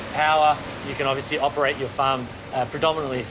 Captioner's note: none